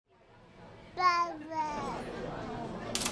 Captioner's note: baby babbling; crowd chattering; typewriter clunking